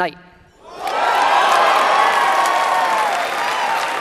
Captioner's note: audience cheering